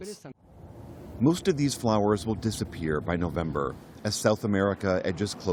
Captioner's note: voice-over